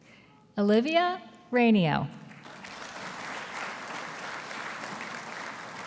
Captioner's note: audience applauding